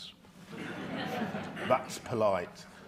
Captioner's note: audience chuckling